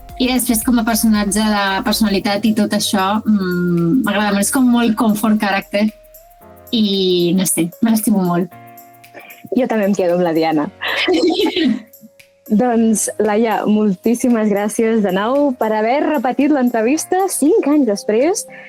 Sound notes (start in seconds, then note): 10.8 laughing